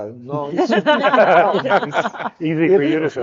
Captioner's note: speakers laughing